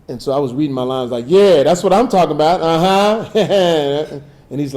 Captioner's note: chuckles